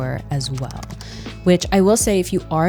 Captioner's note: buttons clicking